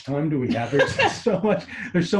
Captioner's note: laughs